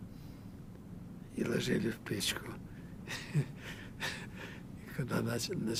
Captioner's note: laughing